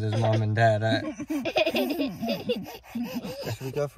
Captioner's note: all laughing